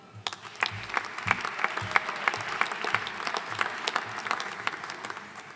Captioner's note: audience cheering and applauding